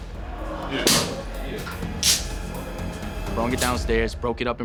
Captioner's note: broom breaking